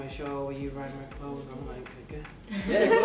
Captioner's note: laughter